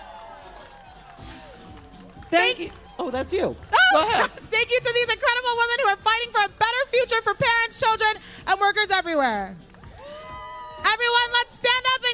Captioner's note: applause